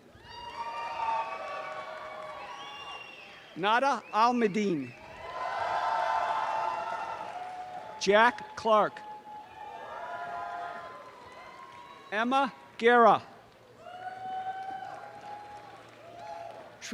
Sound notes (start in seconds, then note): 9.2 audience cheering; 13.7 audience cheering